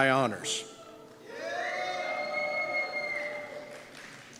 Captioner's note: cheers